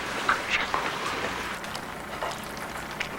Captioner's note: whispering